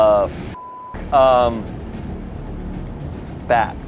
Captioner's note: beeps